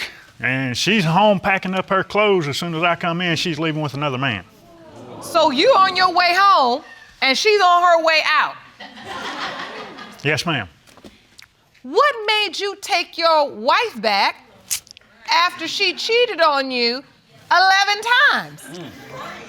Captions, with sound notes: and she's home, packing up her clothes, as soon as I come in, she's leaving with another man. So you're on your way home, and she's on her way out. (AUDIENCE COOS) (AUDIENCE LAUGHING) Yes, ma'am. What made you take your wife back after she cheated on you eleven times?